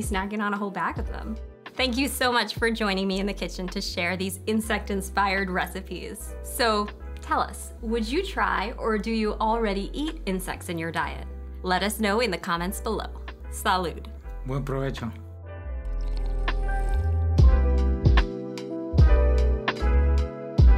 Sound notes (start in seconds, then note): 15.9 slurps; 17.9 bright music